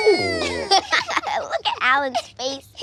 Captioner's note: laughter